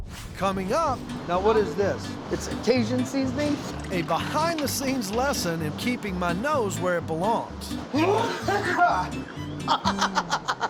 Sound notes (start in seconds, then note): 7.9 laughs; 8.1 coughing hard